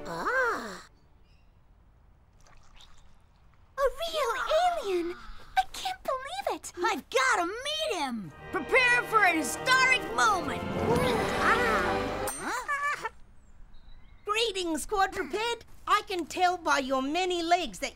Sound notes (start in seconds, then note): 11.0 alien chirps